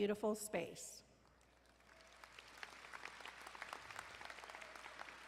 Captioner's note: crowd applauding